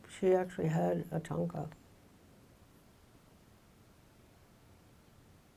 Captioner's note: speaking in foreign language